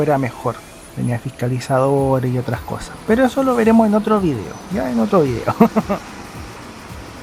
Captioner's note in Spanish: risas